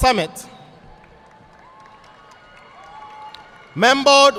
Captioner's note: audience applauding